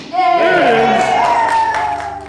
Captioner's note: cheering